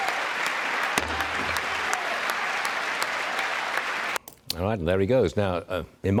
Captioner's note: cheers and applause